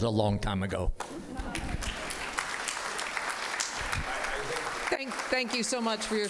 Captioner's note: applause